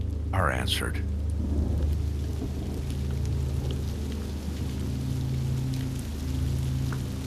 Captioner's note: rainfall pattering